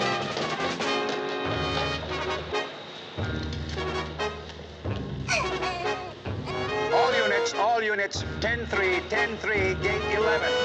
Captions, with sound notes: ( baby gurgles ) All units. All units. 10-3. 10-3. Gate 11.